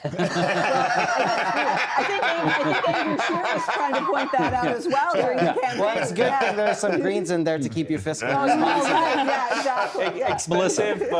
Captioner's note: laughter